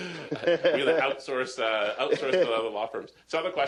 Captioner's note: laughter